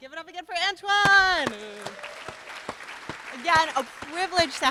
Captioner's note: applause